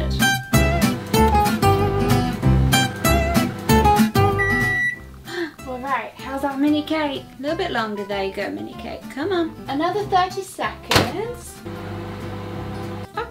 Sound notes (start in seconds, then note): 0.1 bright music; 4.0 microwave beeps